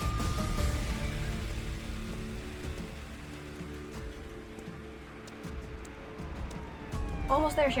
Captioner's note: slow footsteps